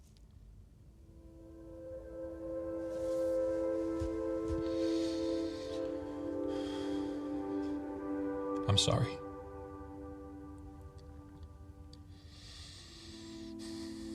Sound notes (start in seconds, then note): 1.1 solemn music; 6.6 Zach sighs; 11.9 breathes heavily